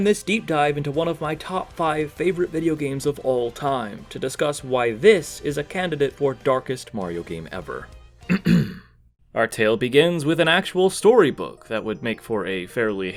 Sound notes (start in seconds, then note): 8.3 ahem